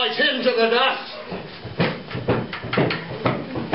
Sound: galloping sound

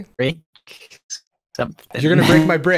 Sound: choppy speech; laughs

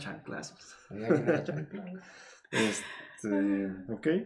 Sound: laughter

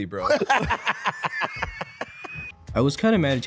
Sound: idiots laughing

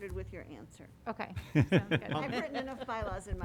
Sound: laughter

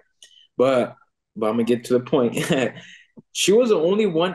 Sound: chuckles

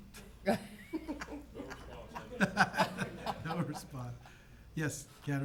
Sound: members laughs

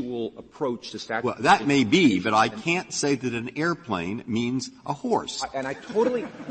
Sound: laughter

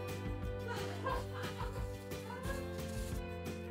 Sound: laughs

